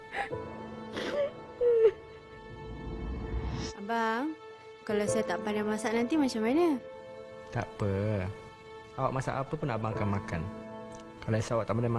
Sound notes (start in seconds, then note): 0.0 woman sobbing; 3.7 speaking in foreign language